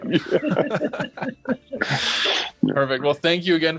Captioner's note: everyone laughs